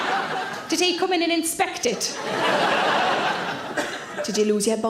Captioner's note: audience laughing